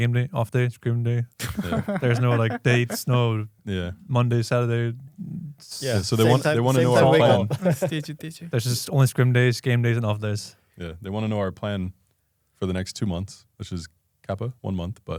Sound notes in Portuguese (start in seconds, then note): 6.2 risos